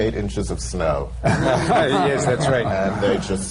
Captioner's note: laughter